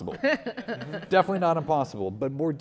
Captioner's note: audience laughing